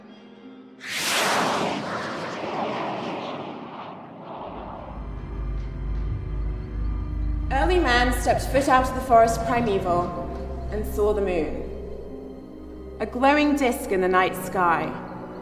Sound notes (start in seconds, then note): 0.8 object soaring; 5.0 ominous orchestral music